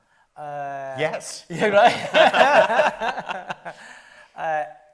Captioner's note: laughs